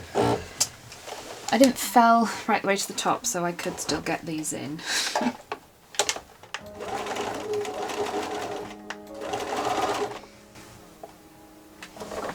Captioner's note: sewing whirring